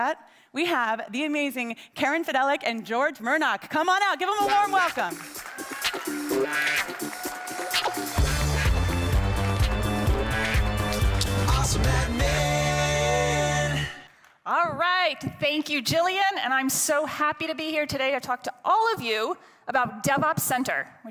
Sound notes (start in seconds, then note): 4.3 lively music; 4.4 attendees cheering